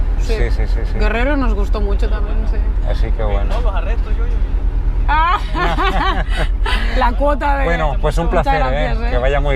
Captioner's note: laughs